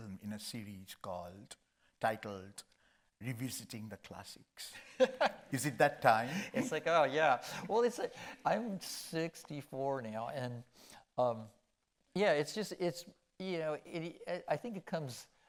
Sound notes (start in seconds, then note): 4.8 Gregg laughing